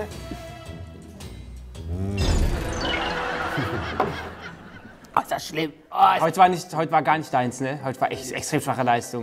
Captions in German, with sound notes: (Gemächliche Musik) Mmm! (Flirrende Musik) (Gelächter) Ah, ist das schlimm. Heut war gar nicht deins, ne? Extrem schwache Leistung.